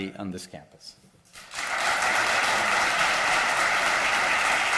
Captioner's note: applause